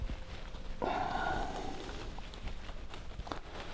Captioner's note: panting